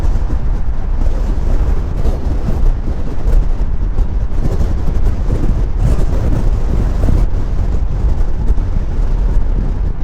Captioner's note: wind blowing